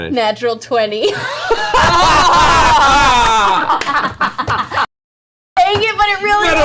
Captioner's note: all laugh